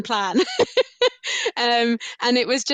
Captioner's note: laughs